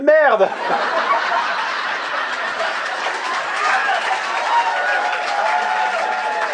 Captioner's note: recorded laughs, applause